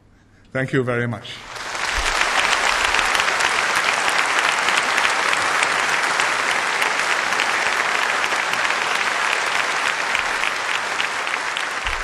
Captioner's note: applause